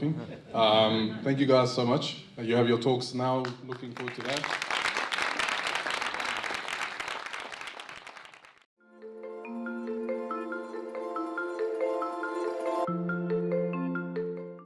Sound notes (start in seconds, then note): 0.3 crowd laughs; 3.4 applause